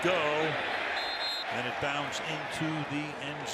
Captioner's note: whistle